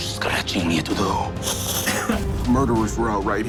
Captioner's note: hisses